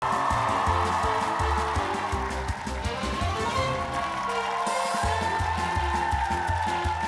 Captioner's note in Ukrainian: оплески